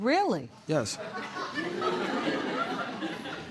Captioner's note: laughter